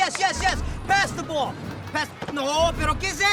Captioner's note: speaking in Spanish